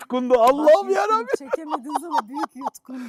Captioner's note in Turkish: kahkaha